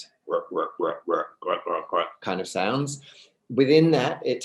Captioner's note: grunts